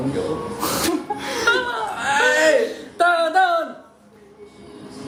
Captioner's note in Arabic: يضحك